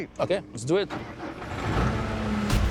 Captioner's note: tractor starts